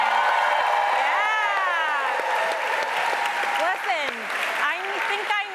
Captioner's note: applause